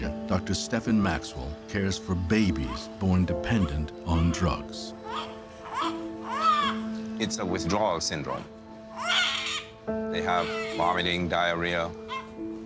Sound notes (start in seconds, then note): 5.0 baby wailing